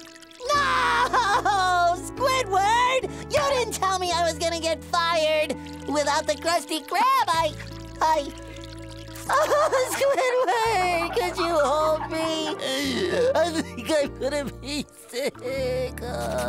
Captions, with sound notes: No. Squidward! You didn't tell me I was going to get fired. Without the Krusty Krab, I... I... [crying] Squidward, could you hold me? [crying] I think I'm gonna be sick.